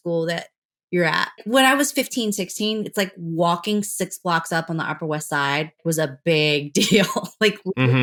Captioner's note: laughter